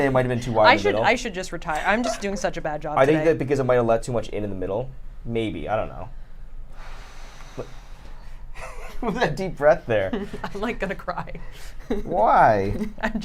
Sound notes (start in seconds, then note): 6.7 exhales loudly; 8.9 laughs